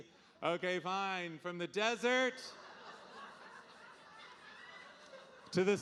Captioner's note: audience laughing